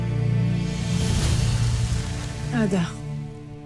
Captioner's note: infernal whoosh-crackle